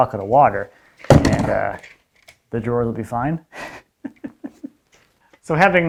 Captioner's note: laughs